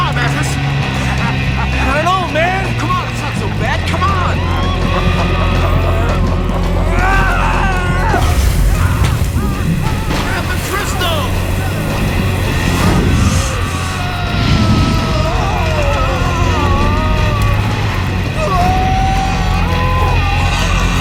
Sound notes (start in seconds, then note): 0.0 evil laughter; 5.4 laughter continues; 6.5 grunts